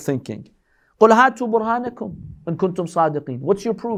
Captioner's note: Arabic